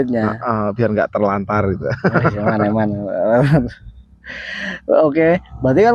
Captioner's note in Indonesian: tertawa